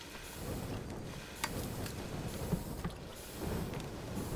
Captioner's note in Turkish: Körük sesi